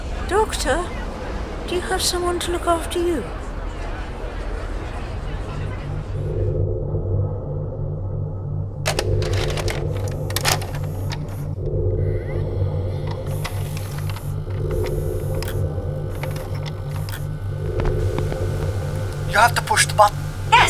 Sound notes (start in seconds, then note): 6.5 the interior hum of the ninth doctor's console room